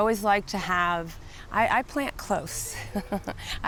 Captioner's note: giggles